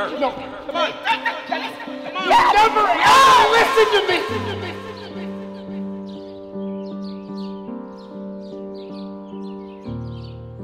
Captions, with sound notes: - Come on. Come on. - You never ever listen to me! (birds chirping) (gentle pensive music)